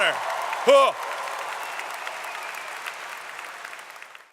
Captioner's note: applause